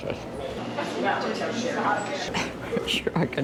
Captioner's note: people chattering